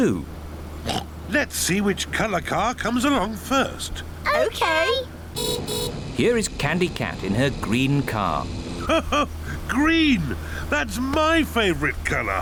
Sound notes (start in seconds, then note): 0.8 oinks; 5.3 horn beeps; 8.8 laughs